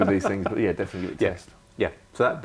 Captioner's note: laughter